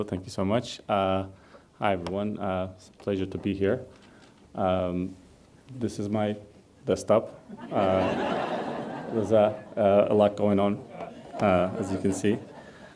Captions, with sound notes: Thank you so much. Hi everyone, it's a pleasure to be here. This is my desktop. (audience laughs) There's a lot going on, as you can see.